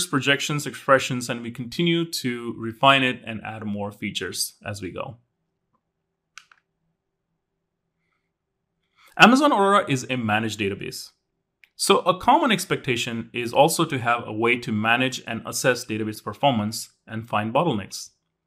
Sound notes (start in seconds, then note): 6.3 remote clicking